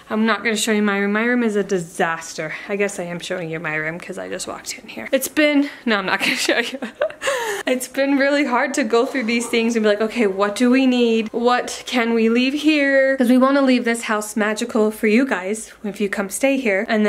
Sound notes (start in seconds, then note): 6.2 chuckles